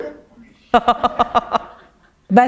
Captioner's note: chuckle